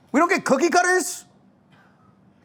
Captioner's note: none